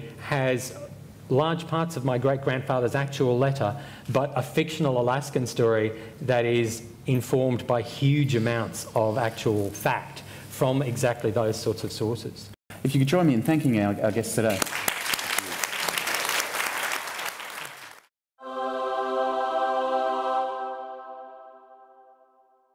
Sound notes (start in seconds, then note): 14.4 applause